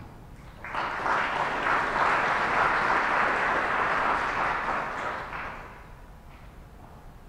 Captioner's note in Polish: oklaski